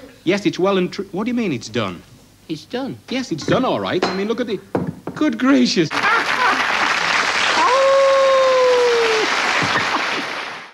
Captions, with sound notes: Yes it's well and tru...what do you mean, it's done? It's done. Yes, it's done all right. I mean look at it...good gracious! [Applause] (Howling)